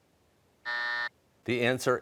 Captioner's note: buzzer sounds